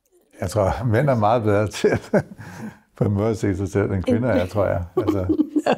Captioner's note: chuckles